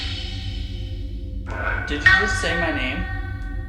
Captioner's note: chanting